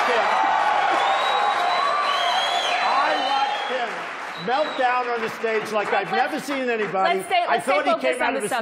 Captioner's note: loud applause & cheering